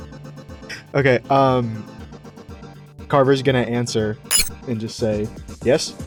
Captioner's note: electronic chirp